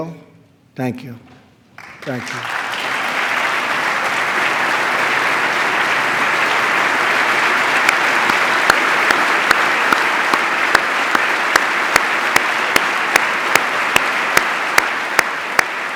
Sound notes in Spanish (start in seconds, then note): 3.7 aplauso